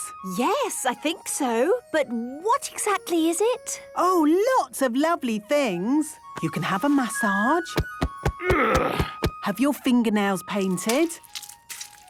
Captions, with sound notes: - Yes, I think so... But what exactly is it? - Oh, lots of lovely things! You can have a massage... - (thumping) - (moaning) - Have your fingernails painted...